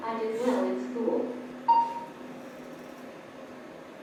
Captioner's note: beeps